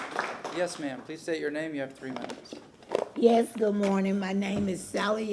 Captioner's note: applause